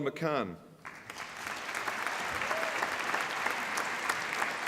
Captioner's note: applause